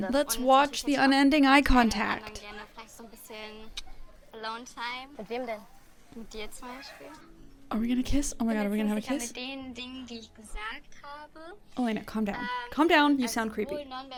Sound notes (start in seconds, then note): 2.6 show contestant speaking in German; 7.2 slow music; 9.6 show contestant speaking in German; 13.9 show contestant speaking in German